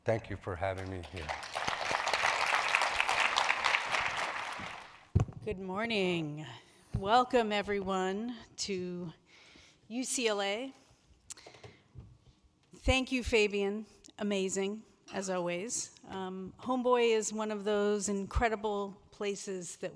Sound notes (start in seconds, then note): 0.4 audience claps